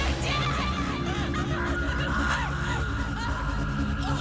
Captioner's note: screaming